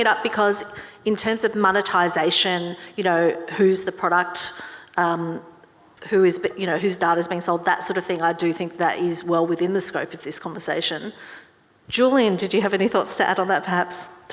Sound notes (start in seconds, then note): none